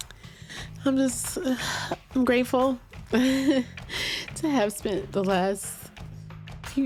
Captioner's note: gives a happy sigh